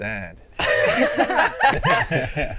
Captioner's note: laughing